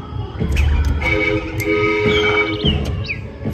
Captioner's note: toot-toot toot